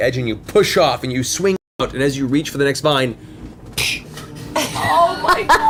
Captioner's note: snapping sound